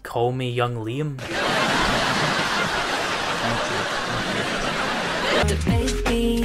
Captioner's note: canned audience laughter